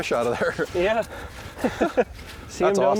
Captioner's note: laughs